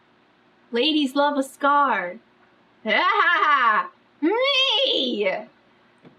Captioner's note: laughs